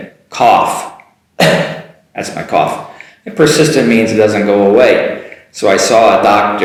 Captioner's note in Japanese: 咳をして